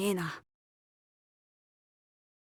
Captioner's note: silence